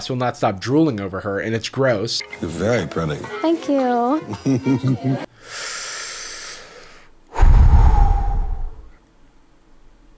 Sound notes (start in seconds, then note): 4.5 giggling; 7.3 deep breath